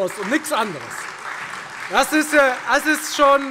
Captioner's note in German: Beifall Freie Demokraten, SPD und DIE LINKE